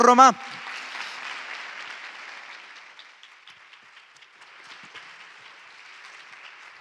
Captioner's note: clapping